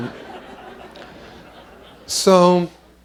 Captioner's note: laughter